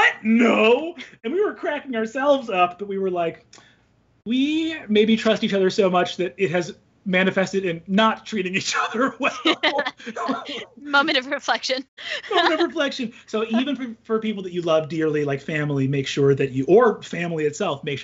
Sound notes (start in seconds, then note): 8.6 both laughing; 12.1 laughs